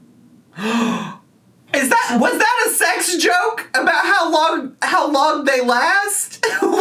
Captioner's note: gasps